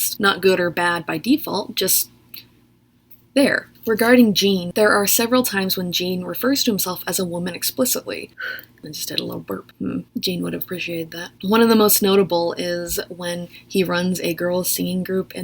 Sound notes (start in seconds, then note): 8.5 burps